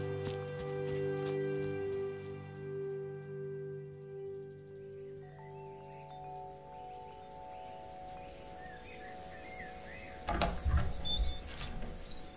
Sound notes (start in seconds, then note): 0.0 fast footsteps retreating; 5.2 wind chimes ringing; 7.5 birdsong; 10.2 door opening